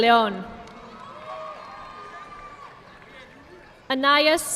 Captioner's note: audience clapping